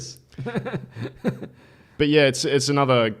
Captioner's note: laughs